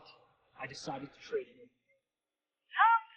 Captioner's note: booing